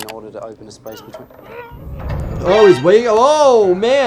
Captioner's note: patient yelling